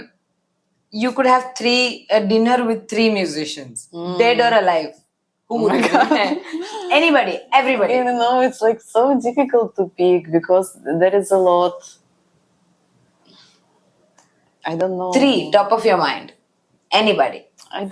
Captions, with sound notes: you could have three, uh, dinner with three musicians- -Hmm -... dead or alive, who would you pick? -Oh my God [laughs]. -Anybody. Everybody. You know, it's like so difficult to pick because there is a lot. -I don't know. -Three, top of your mind. Anybody.